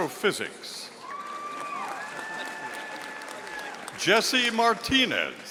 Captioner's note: audience applauding